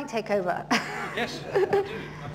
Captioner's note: laughter